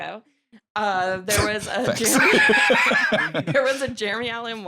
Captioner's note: laughs